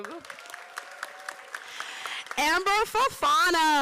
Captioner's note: applause